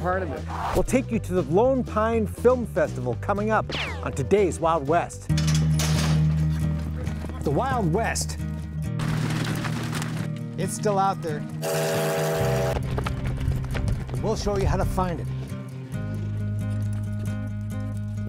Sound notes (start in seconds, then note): 5.3 gate rattling; 8.9 hooves beating; 11.6 train whistle blowing; 15.3 mellow guitar music